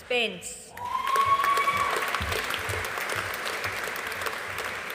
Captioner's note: audience applauding